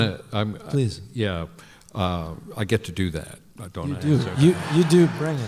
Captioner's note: laughter